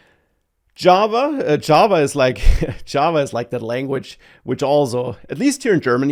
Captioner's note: laughs